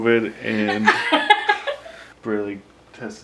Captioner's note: laughs